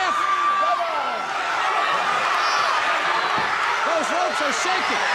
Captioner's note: crowd clamoring